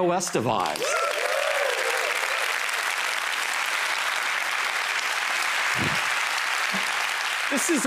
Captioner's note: applause